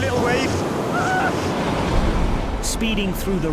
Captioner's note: crew member shouts